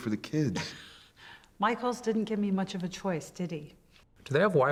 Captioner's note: laughs